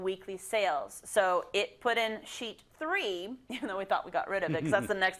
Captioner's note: laugh